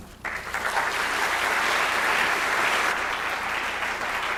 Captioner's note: clapping